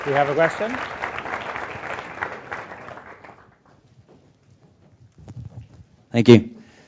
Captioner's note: applause